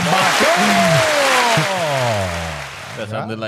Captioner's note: cheering